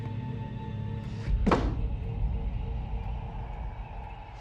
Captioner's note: book banging; dramatic music